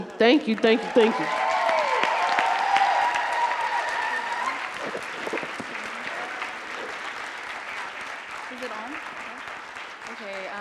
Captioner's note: applause